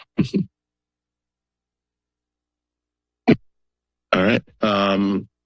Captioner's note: silence